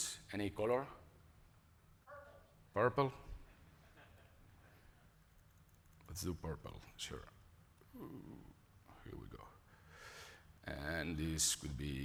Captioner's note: laughter